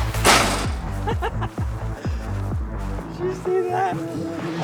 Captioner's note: laughs